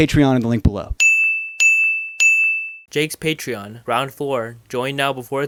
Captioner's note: ping